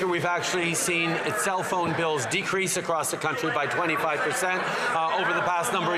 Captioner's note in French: voix de l'interprète